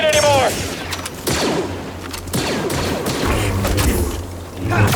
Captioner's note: guns shooting; lightsaber swinging